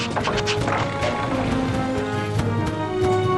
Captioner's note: sputtering engine